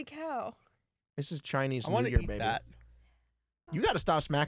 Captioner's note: smacks the microphone